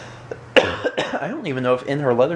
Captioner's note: coughs